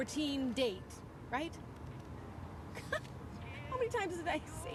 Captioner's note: laughs